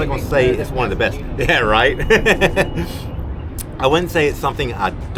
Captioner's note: laughter